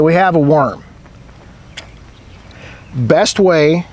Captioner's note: nature sounds